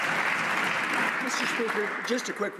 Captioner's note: some Applause